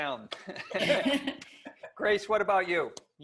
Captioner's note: laughs